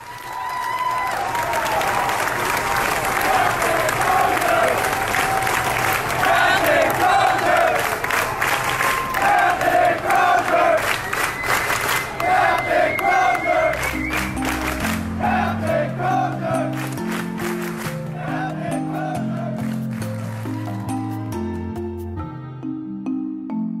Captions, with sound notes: (crowd cheering) - [Crowd In Unison] Captain Crozier! (crowd clapping) Captain Crozier! (crowd clapping) Captain Crozier! (crowd clapping) Captain Crozier! (crowd clapping) Captain Crozier! (crowd clapping) Captain Crozier! (crowd clapping) (gentle music)